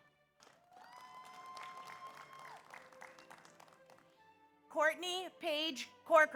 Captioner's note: audience applauds; audience cheers